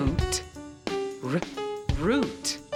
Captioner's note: making "r" sound